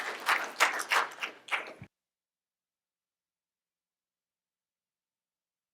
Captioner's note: applause